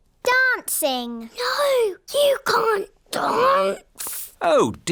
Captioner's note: whispers